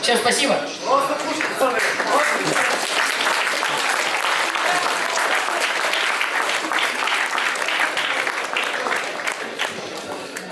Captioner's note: applause